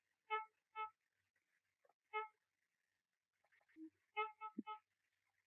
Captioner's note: horn honking